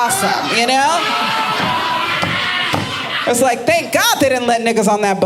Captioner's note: audience laughing